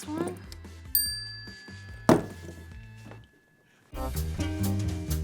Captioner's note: bell dings; upbeat music